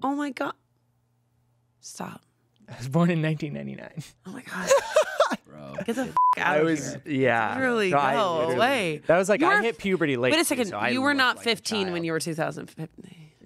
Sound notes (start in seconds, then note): 6.1 beep